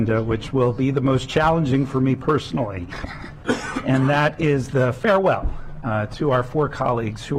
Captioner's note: laughter